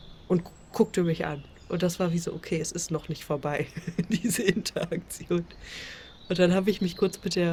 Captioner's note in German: gelächter